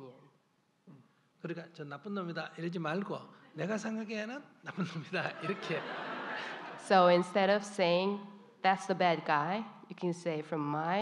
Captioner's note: audience Laughter